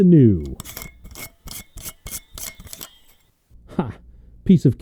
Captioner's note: lightbulb screwing in